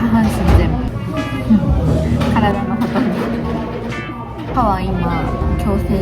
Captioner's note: laughs